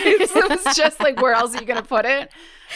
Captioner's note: both laugh